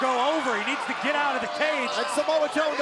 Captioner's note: crowd cheering